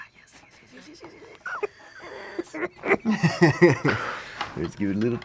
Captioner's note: laughter